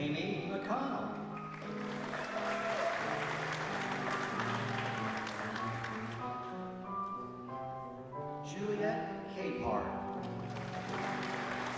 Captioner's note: applause